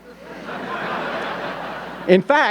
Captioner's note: audience laughing